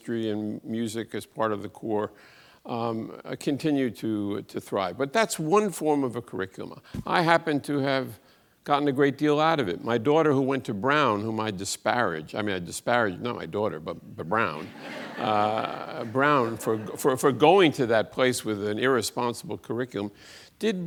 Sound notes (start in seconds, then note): 14.6 audience laughs